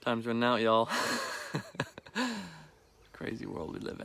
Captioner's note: laughs